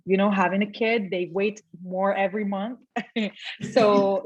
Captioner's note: giggles